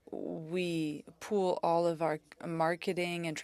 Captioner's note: speaking French